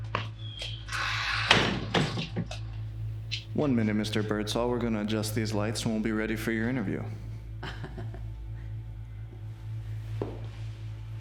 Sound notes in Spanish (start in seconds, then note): 0.9 la puerta se cierra; 7.5 Jonathan se ríe